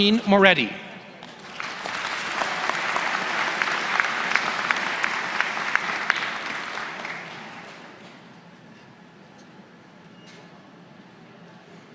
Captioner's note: applause